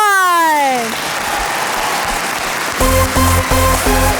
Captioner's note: applause; upbeat electronic dance music